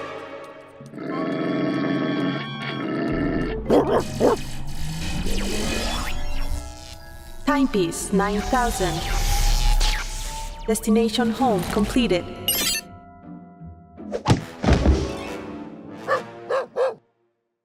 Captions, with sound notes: (growling) (barking angrily) (static noises) (robot voice) HYPESE 9000. DESTINATION HOME, COMPLETED. (soft beep) (barking)